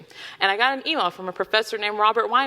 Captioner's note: none